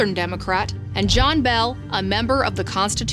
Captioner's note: graphic whooshes